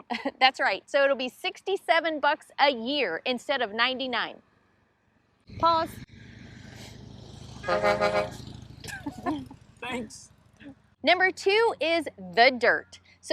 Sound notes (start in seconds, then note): 5.4 engines revving; 7.6 horn blaring; 8.8 laughter